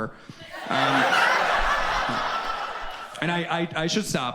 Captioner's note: audience laughs